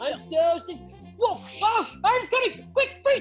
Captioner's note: yelling